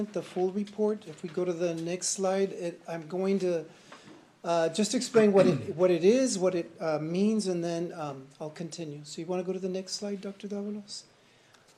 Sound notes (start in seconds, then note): 5.3 clears throat